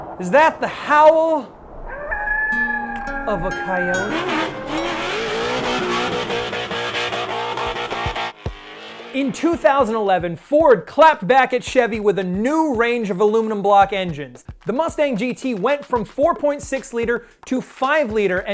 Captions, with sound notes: Is that the howell (coyote howling) of a coyote? (engine revs) In 2011, Ford clapped back at Chevy with a new range of aluminum block engines. The Mustang GT went from 4.6 liter to five liter